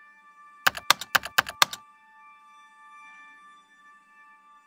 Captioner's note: soft music; keyboard clacking